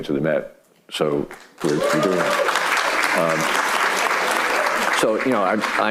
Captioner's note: audience clapping